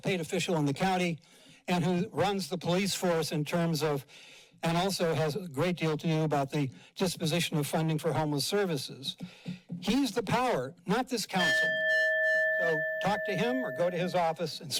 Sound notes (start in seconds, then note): 11.4 bell dings